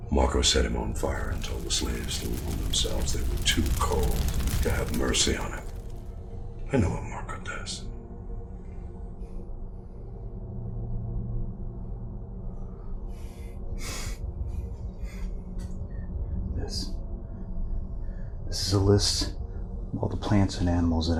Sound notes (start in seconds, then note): 13.8 sniffles